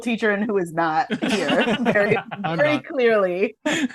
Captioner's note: laughter